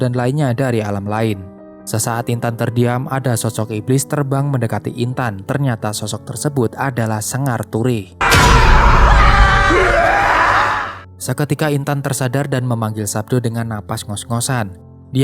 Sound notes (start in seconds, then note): 8.2 screaming